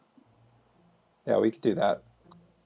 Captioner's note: voiceover